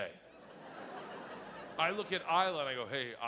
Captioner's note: audience laughing